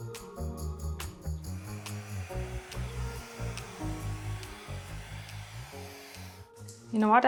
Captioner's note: gentle upbeat music; blower whooshing